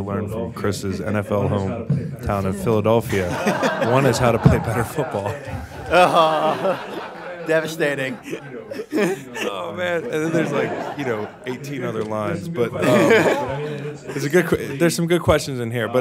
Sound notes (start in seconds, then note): 3.6 laughing